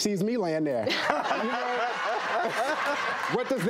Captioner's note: laughing